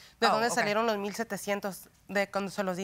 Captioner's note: speaking spanish